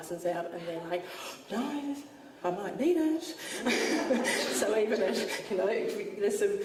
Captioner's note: audience laughs